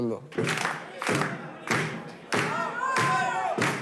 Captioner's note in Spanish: Aplausos